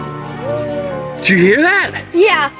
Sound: howling

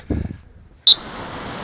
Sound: blows whistle

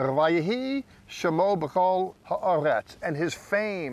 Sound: speaking in Hebrew

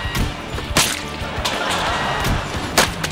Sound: laughing

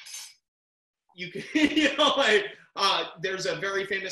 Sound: laughs

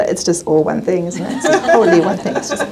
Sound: all laughing

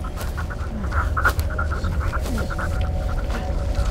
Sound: space sounds

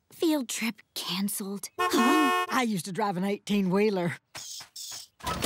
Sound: honking

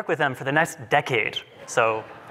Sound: laughter

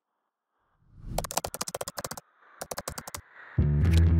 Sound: typing

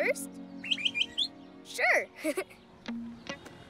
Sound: chirps; chuckles

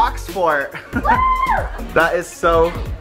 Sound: screams

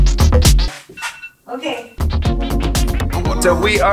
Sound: timer alarm sounding

